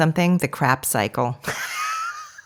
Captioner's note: laughs